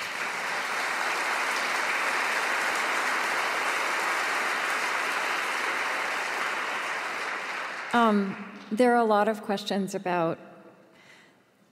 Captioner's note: applause